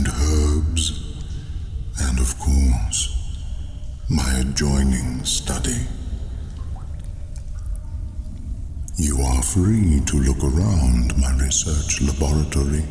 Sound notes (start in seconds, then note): 6.6 cave noises